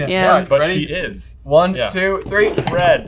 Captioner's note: boards clack